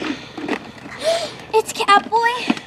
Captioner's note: gasps